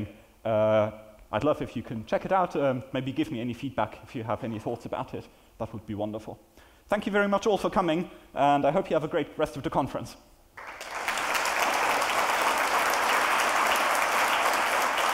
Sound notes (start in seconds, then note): 10.5 applause